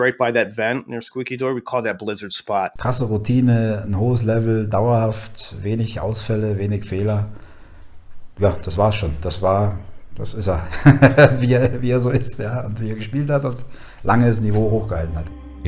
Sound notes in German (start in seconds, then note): 10.4 lacht